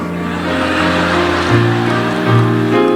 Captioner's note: audience laughing; relaxing piano music continues